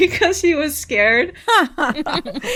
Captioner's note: laughter